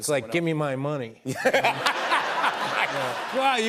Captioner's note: laughter